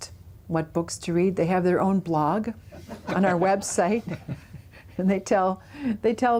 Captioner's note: laughter